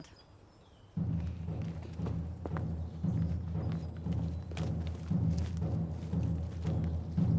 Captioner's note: birds chirping; dramatic drumming music